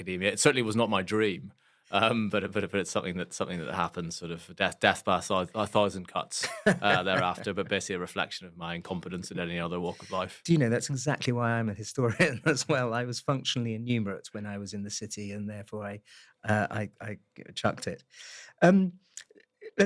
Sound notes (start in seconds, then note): 6.4 laugh; 12.1 laugh